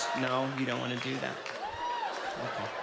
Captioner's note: audience laughs